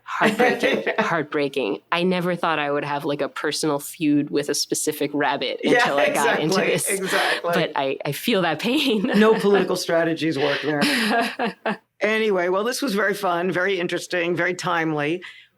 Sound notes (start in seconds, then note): 10.4 laughter